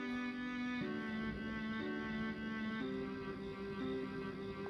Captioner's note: crickets chirping; dramatic music plays